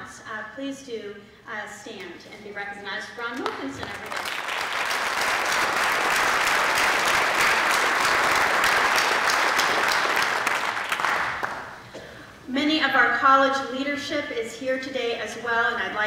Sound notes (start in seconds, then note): 7.7 applause